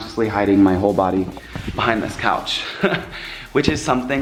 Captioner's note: laughs